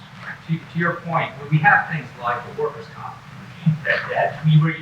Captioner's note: speaks faintly